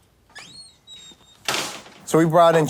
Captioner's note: door bangs